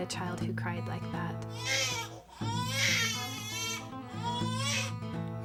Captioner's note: baby crying